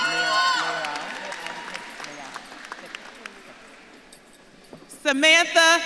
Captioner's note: audience claps and cheers